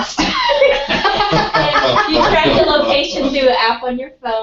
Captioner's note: laugh